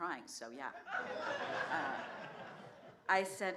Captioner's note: laughter